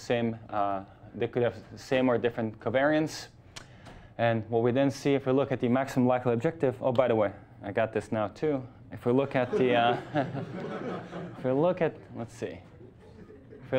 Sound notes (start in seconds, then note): 9.4 class laughing